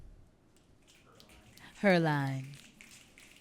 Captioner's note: audience clicking